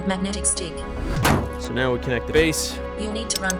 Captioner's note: thunk